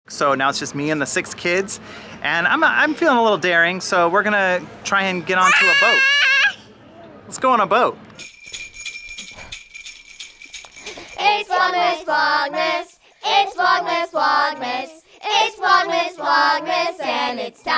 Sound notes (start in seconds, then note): 5.4 screaming; 8.2 bells chiming